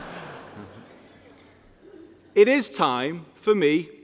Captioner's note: laughter